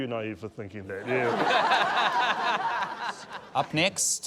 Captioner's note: laughter